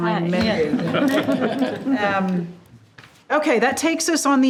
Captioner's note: group laughing